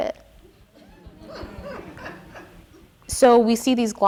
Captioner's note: audience laughing